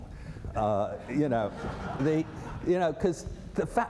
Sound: laughter

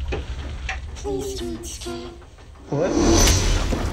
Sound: demonic voice

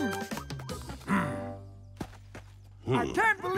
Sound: groaning

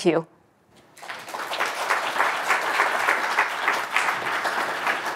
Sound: audience applauding

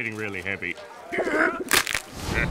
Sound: groaning; laughing

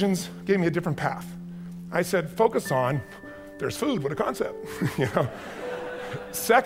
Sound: chuckles

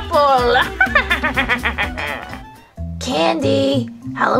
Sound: witch laughs

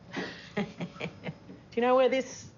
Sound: chuckles

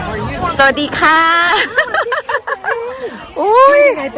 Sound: laughter

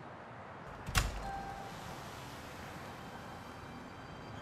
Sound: door creaks

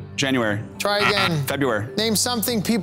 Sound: buzzer ringing

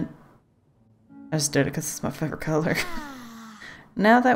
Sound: laughs

